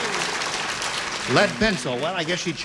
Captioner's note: applause